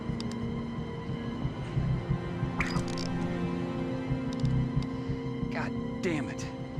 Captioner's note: fishing line whips